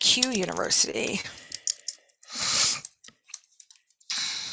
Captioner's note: keyboard clicking